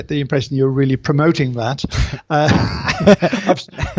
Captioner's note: laughs